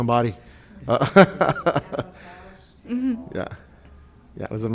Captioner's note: laughs